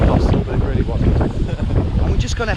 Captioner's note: laughs